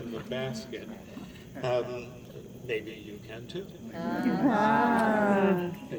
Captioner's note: audience says ahhh